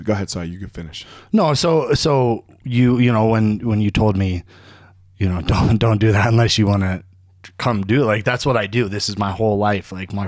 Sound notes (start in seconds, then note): none